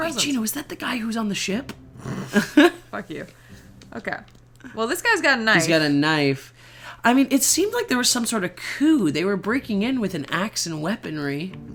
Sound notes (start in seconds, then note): 2.1 laugh